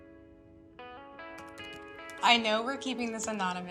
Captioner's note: keyboard clacking